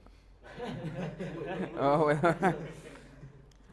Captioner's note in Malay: ketawa